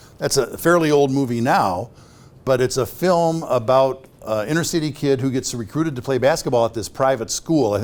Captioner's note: none